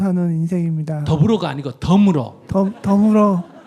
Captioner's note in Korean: 청중 웃음